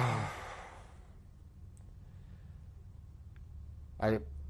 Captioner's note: sighs